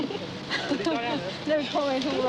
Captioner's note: Diana laughs